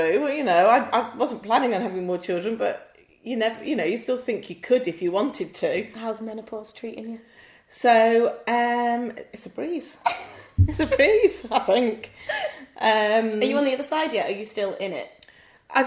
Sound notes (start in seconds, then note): 10.1 giggles